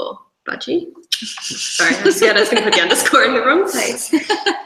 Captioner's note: laughter drowns out speaker